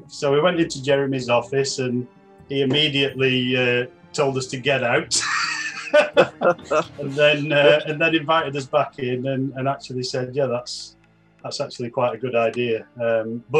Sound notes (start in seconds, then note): 4.9 laughing